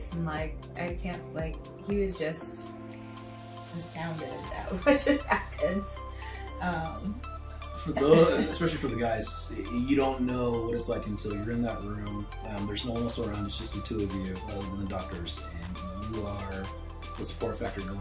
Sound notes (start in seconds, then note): 7.9 laughing